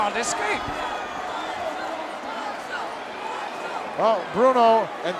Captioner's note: audience cheering